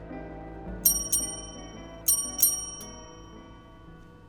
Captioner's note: bell rings